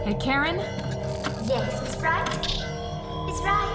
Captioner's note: circuits ripping